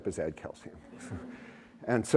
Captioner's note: laughter